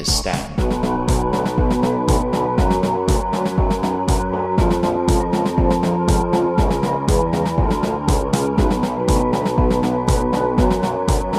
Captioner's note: machines howling